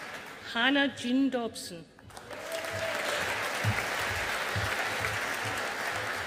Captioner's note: audience applauding